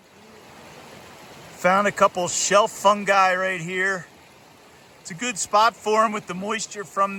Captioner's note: rushing water